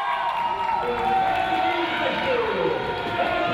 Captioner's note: cheering